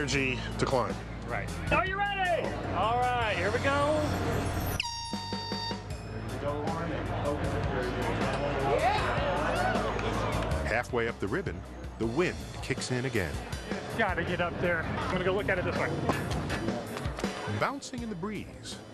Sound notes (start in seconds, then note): 4.7 horn blowing; 8.7 cheering